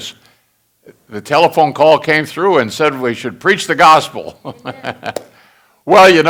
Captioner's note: congregation laughing